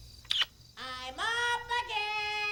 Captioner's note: Earl kissing